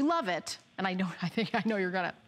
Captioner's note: laughter